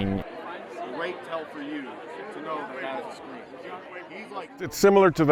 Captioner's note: football team discussing